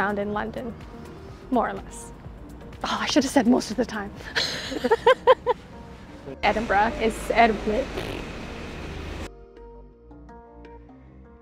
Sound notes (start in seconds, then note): 4.3 laughs; 7.8 blows raspberry